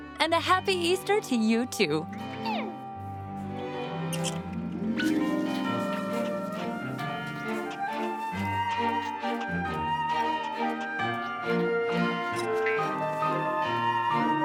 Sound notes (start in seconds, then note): 2.0 animal noises; 7.4 church bell ringing